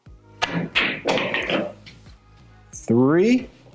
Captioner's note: balls clanging